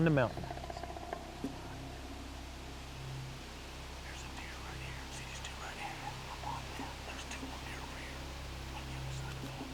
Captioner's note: whispering